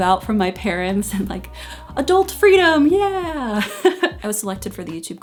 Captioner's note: laughs